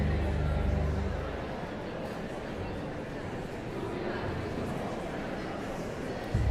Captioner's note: audience chattering continues